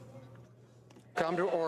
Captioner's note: speaking French